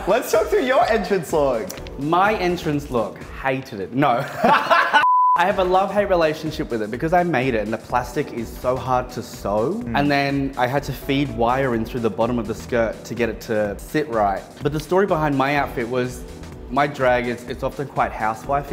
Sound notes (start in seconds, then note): 4.2 laughs